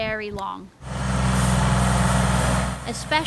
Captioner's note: plow rumbling